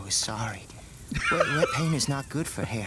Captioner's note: laughs